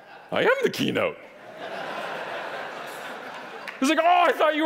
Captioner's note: audience laughing